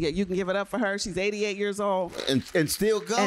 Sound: applause

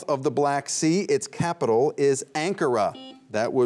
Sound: buzzer beeps once

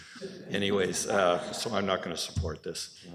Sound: laughter

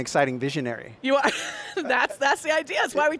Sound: laughs

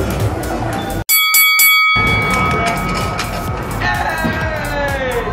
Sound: bell ringing

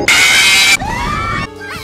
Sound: everyone screams

